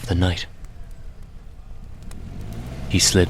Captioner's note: sound of car starting and driving away